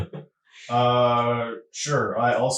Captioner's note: laughing